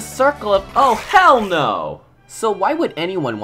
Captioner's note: angry Goblin Noises